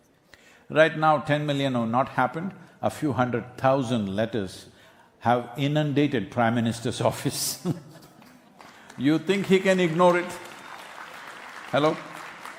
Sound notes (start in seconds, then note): 7.6 laughs; 11.4 applause